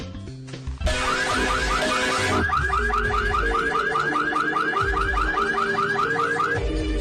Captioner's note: alarm